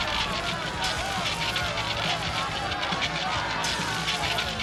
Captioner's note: people yelling